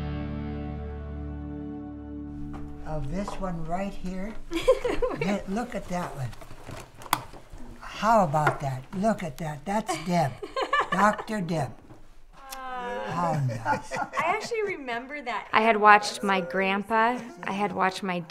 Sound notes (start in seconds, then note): 4.4 laughing; 12.4 laughing and talking